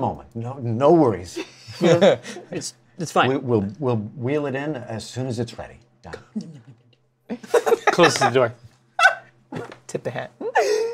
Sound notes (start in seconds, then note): 1.4 laughter; 6.1 whispers; 9.0 laughs